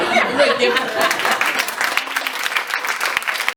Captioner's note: applause